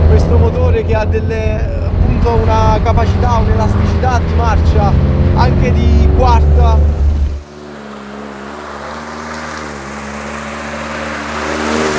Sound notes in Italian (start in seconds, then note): 8.2 auto in salita con motore basso di giri